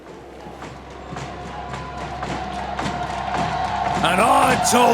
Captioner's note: distant echoes of crowd cheering